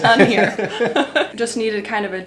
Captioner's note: laughs